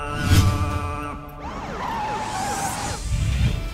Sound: jeep halts

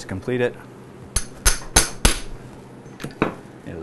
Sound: hammering sound

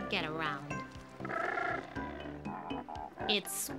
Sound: cormorant honking

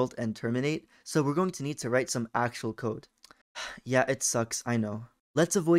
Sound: sigh

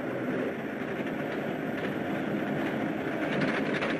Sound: truck rumbling

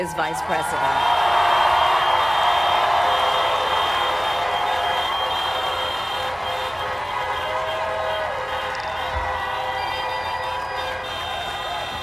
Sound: crowd cheering

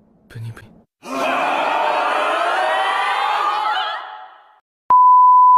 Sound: CROWD SHOUTING in FEAR

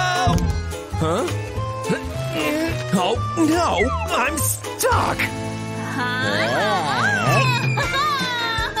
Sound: making excited sounds

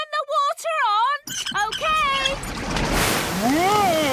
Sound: wheel squeaking

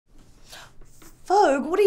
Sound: gasping

